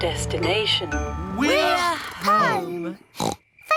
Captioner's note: oinks